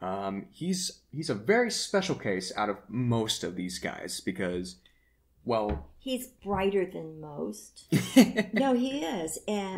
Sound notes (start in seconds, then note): 7.6 sheepish laughter